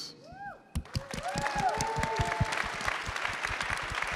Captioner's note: crowd cheering